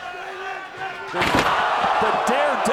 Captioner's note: table clatters; body thuds